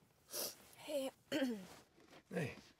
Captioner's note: sniffs; clears throat